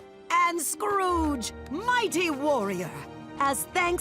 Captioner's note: none